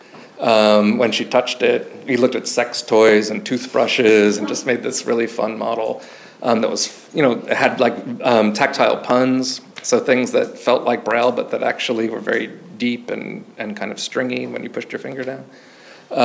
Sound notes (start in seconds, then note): 4.4 audience member chuckles